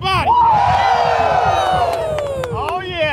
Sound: cheering

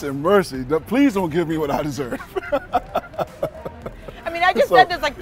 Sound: laughs

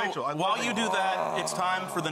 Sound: groaning

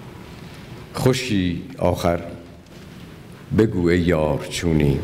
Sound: speaking persian

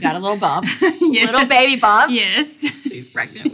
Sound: laughing

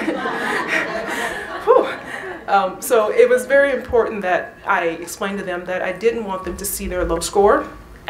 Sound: laughter

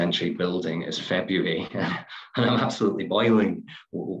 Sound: chuckles

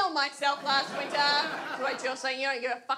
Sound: audience laughs

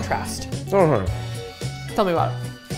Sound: mumbles

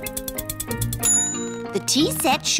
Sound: bell dings

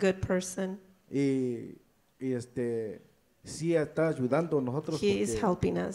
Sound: speaks in foreign language

